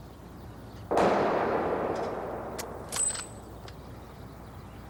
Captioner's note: gun firing